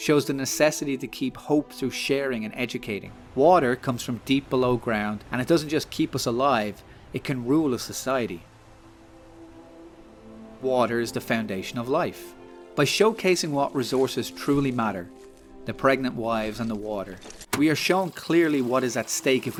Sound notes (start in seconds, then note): none